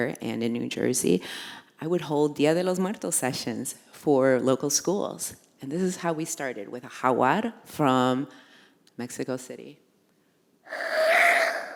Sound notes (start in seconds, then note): 1.7 foreign language spoken; 8.5 foreign language spoken; 10.7 squawking noises